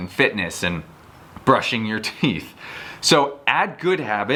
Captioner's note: chuckles